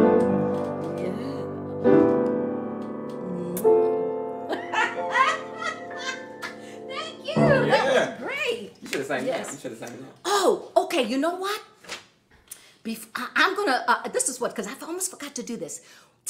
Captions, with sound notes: YEAH. [LAUGHING] . THANK YOU. ≫ YEAH. ≫ THAT WENT GREAT.